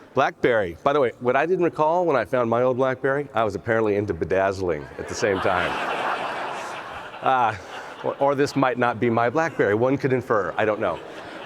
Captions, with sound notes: Blackberry, by the way, what I didn't recall when I found my old Blackberry, I was apparently into bedazzling at the same time. (audience laughs) Or this might not be my Blackberry one could infer, I don't know.